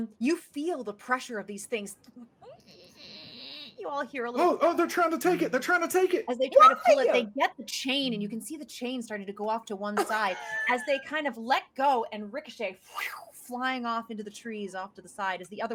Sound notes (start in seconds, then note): 2.6 squealing; 12.5 makes flying noise with mouth